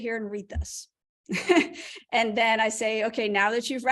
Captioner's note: laughter